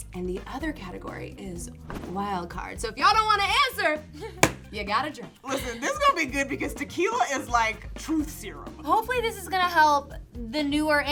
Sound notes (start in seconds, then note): 4.4 hits table